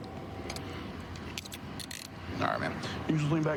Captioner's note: handcuff closing